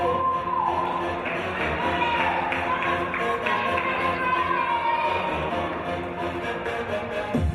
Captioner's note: audience cheering; dance music